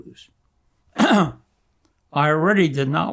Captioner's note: clears throat